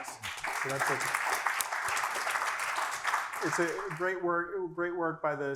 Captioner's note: applause